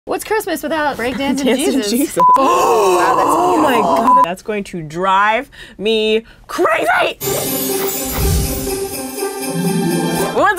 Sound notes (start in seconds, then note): 2.3 gasps; 7.2 upbeat music; 7.3 bells jingling